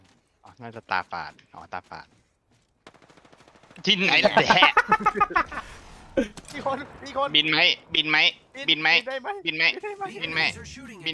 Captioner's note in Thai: เสียงหัวเราะ